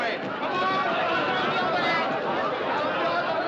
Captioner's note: Gritos, clamores